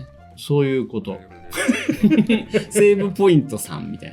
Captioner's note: laughs